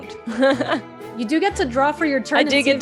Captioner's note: laughs